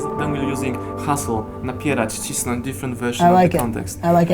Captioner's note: speaking Polish